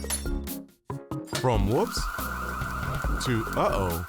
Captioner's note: fire alarm blaring